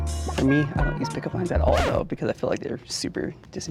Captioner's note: record scratch